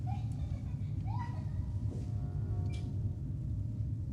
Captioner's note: giggling